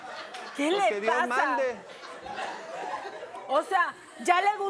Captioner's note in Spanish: Risas del público